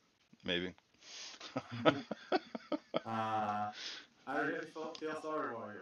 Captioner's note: laughs